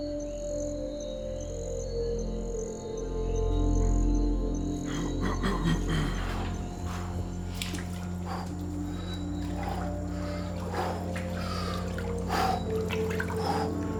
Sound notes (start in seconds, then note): 6.1 coughs; 10.6 breathing heavily